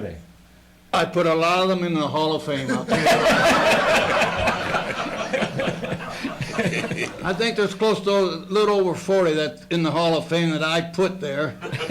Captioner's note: laughter; laughter